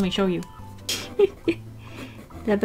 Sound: hehehe

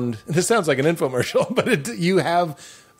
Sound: laughing

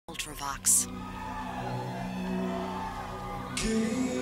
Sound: audience cheering

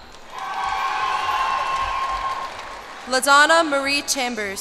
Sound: cheers and applause

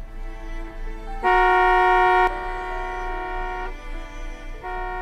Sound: cars honking

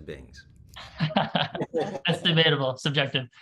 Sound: laughing

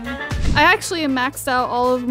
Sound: screen swoosh

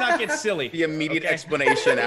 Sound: laugh

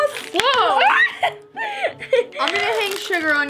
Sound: yelps

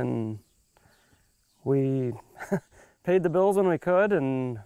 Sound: laughs

